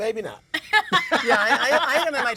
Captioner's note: laughing